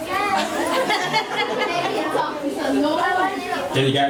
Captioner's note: laughs